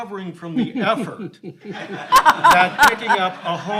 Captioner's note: all laughing